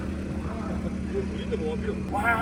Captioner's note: haha